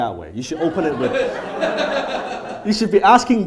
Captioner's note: audience laughs